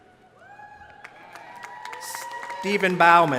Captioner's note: crowd cheering